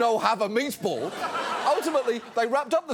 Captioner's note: audience laughs